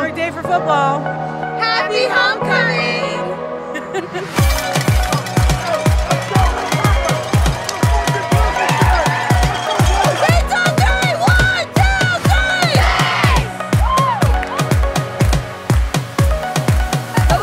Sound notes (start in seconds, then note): 3.7 laughing; 4.4 upbeat music; 5.6 excited shouting; 13.7 cheering